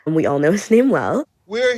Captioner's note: soundbite of archived recording